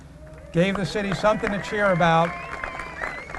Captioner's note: applause and cheers